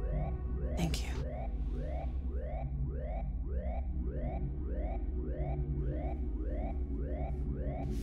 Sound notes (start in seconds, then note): 1.7 alarm blaring; 3.9 soft dramatic music